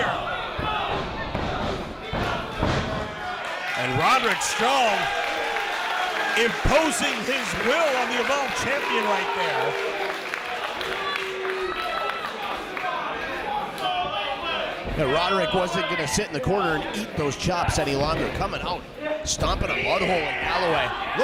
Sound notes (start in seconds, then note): 11.0 applause